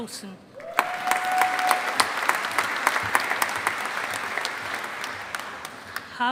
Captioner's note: audience applauding